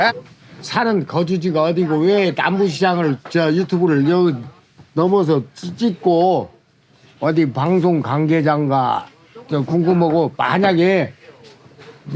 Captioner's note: speaking Korean